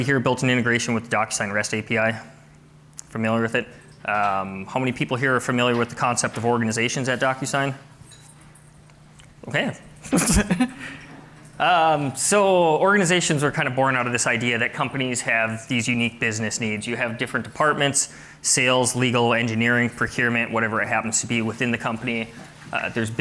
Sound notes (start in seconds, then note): 10.1 laugh